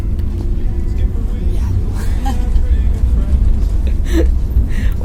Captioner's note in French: rire